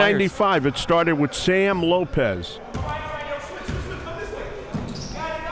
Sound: yelling

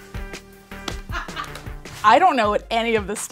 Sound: laughter

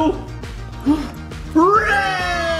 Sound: gasps

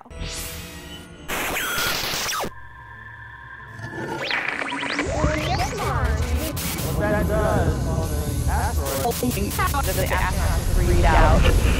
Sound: sound Effects

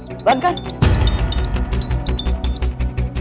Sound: phone ringing

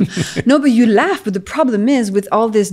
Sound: chuckles

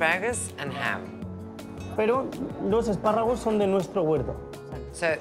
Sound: speaking Spanish

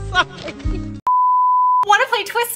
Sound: TV Color Bars Sound Effect

